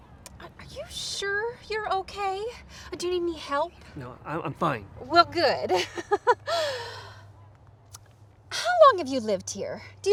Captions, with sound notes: - Are you sure you're okay? Do you need any help? - No, I'm fine. - Well good (laughs). How long have you lived here?